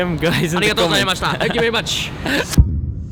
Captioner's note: laughing